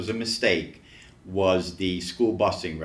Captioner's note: none